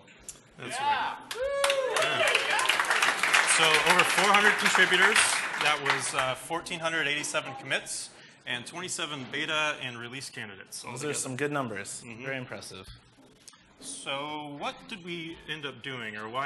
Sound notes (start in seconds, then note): 1.2 applause